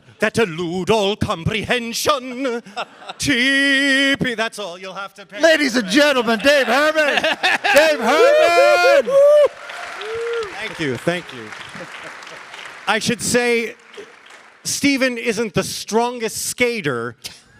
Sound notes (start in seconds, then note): 8.0 all laughing; 10.1 audience applauding